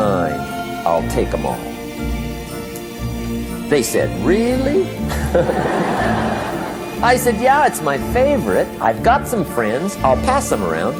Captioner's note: laughter